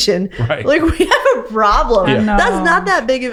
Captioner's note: laughing